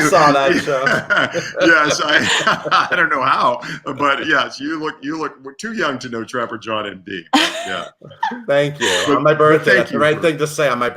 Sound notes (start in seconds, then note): 0.2 laughs; 3.1 all laugh